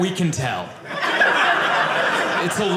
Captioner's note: audience laughing